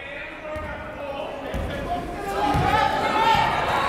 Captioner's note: yelling